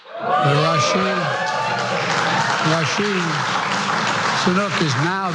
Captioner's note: laugh; applause